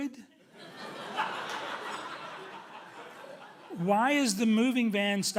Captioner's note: audience laughing loudly